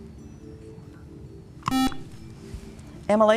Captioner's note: buzzer